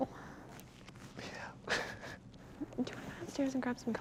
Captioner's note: laughs